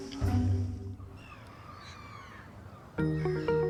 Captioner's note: birds chirping